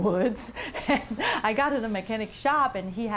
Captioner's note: chuckles